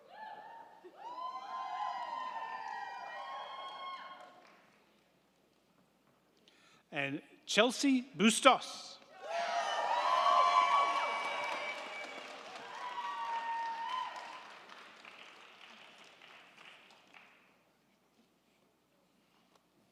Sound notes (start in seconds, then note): 9.1 crowd cheering; 9.3 crowd clapping